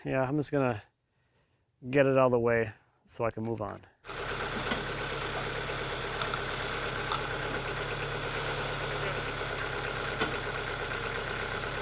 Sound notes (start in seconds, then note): 4.0 telehandler engine droning